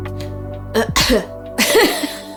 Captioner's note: coughs; laughs